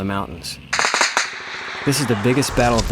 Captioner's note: gunfire